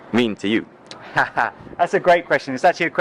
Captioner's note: laughs